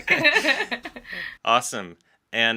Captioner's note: laughter